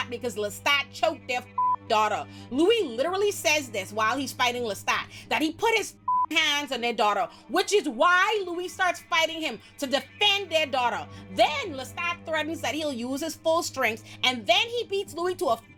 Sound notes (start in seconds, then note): 1.5 beep; 6.0 beep